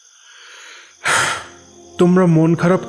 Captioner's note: sigh